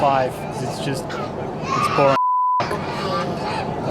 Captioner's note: beeps